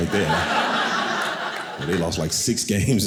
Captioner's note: audience laughing